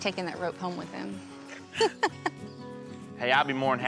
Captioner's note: chuckling; giggles